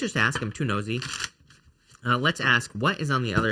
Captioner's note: shuffling cards